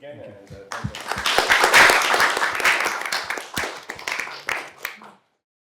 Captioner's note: applause